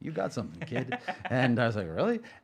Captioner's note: laughing